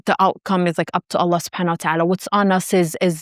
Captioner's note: speaking foreign language